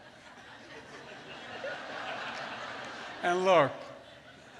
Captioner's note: laughter